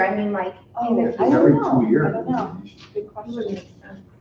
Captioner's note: group chatter